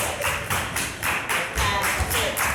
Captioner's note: performers clapping